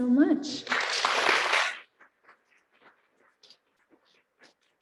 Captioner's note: applauding